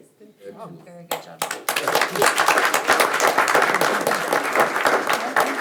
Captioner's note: audience applauds